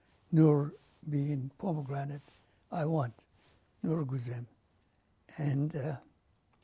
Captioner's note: non-english; pauses for 3 seconds